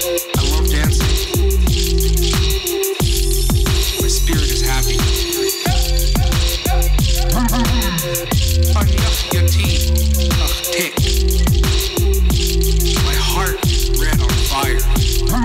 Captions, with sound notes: My spirit is happy. (upbeat music) (foreign speaking) My heart is lit on fire.